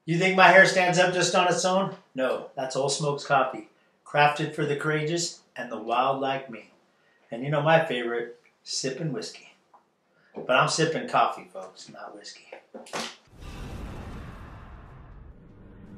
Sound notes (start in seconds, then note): 13.2 whoosh